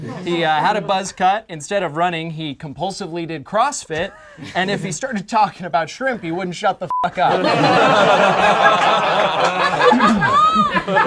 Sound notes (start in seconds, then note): 6.9 beep; 7.1 group laughs